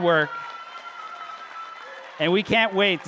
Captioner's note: audience applauding